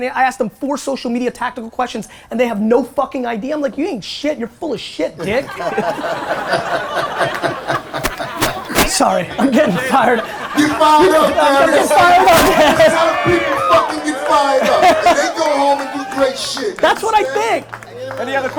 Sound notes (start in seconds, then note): 5.6 audience laughter; 10.3 laughing